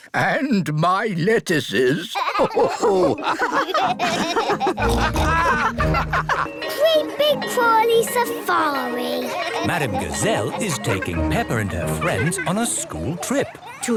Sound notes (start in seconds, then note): 2.1 all laugh